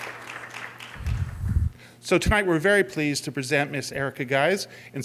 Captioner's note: applause